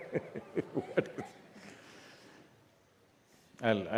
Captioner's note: laughs